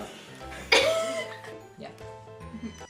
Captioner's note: laughing